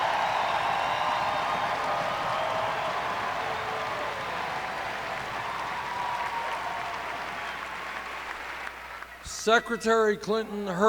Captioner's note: cheers and applause